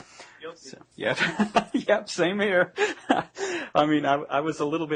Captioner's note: laughing